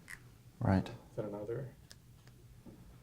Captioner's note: voiceover